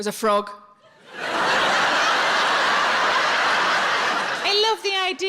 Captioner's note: audience laughs